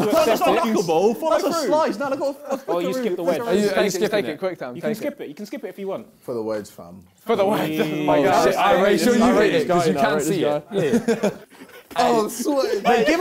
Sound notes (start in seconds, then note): 0.1 crowd mumbling; 8.5 both mumbling